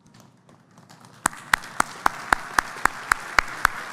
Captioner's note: applause